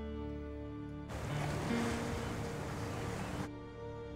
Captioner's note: wave sound